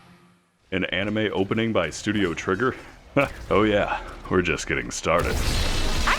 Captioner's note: chuckles